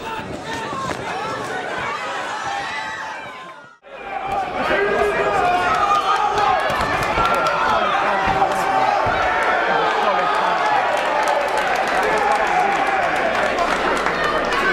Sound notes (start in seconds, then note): 0.3 crowd cheering; 9.7 crowd cheering and clapping